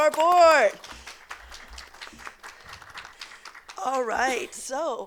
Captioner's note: people clapping